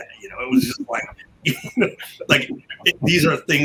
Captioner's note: chuckle